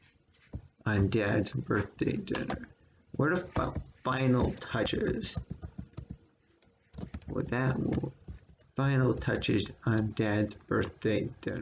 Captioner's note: click of trackpad; tapping of computer's keyboard